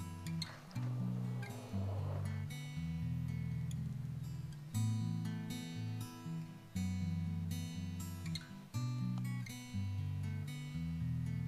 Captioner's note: blowing sounds into tinder bundle